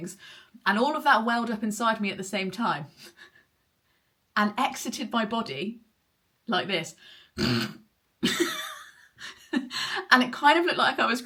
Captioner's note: snort